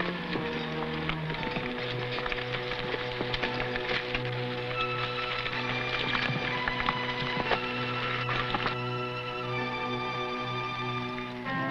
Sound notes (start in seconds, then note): 3.4 horse hooves pattering; 9.2 tense music